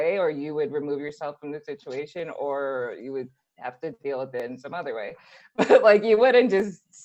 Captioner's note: laugh